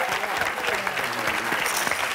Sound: chimes

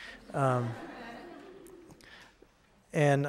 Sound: audience laughing

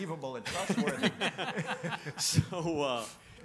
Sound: panelists laughing

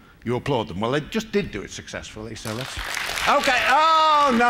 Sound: applause

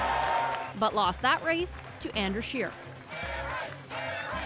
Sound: cheers and Applause

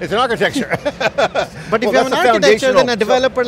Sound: laughing

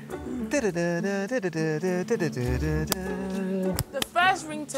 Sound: hums original tune

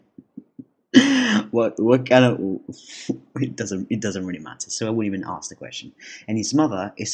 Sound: chuckles

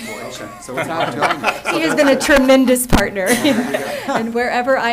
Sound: laughter

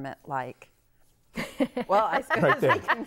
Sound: laughing

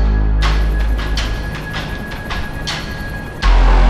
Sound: helicopter idling

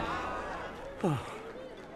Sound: sighs

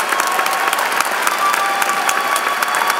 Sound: applause

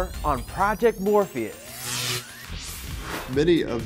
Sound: sound Effects

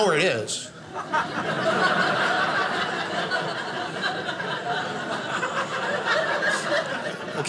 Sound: audience laughing

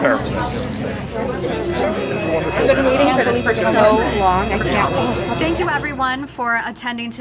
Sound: crowd murmuring; mysterious creepy strings playing

